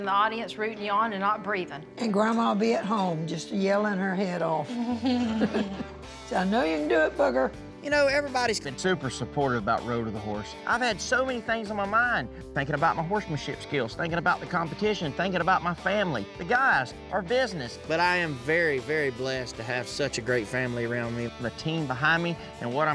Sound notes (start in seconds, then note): 4.7 everyone chuckles